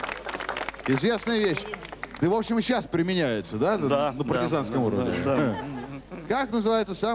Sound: applause; laugh

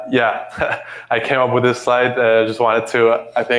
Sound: chuckles

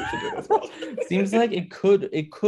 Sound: laughter

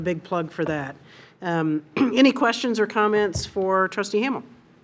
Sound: clears throat

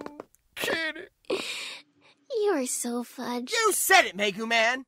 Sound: inhales

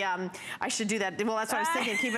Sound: laughter

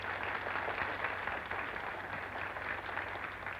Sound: crowd applauding

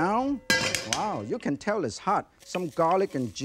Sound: wok clinks; spatula taps; ingredients sizzling

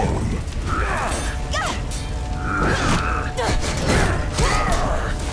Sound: grunting

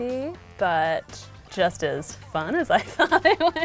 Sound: starts laughing

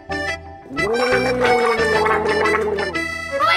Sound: gargling

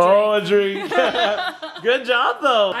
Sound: giggle

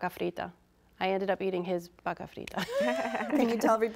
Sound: all laughs

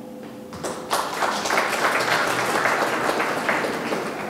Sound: audience clapping

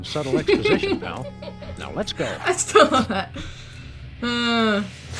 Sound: laughs

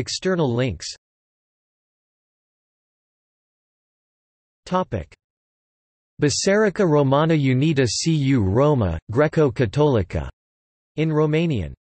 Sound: in Romanian

